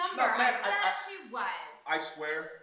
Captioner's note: Brian stammers